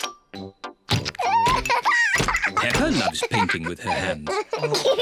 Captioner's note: laughs; both laugh